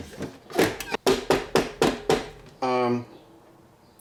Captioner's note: knocking